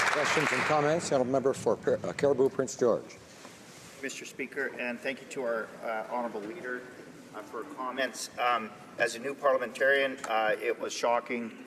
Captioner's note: some Applause